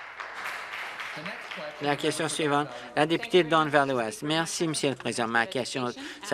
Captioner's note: applause